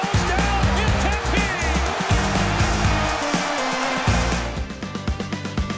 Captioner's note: crowd cheering; cheerful music